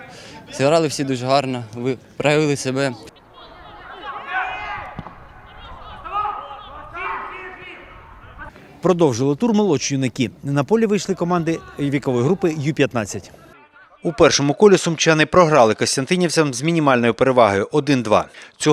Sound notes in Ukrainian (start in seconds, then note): 4.9 шум гри